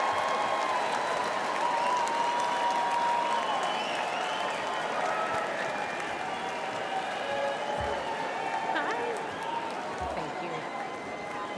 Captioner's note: cheers and applause